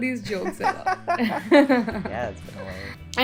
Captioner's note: laughter